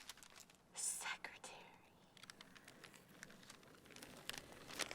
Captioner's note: whispers